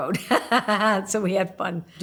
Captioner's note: laughing